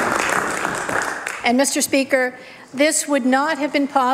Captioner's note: applause